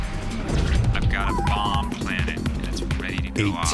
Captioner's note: on phone